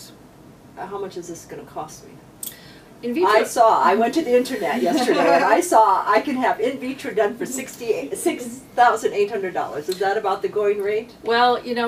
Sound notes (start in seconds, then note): 3.0 joking tone; 4.8 laughs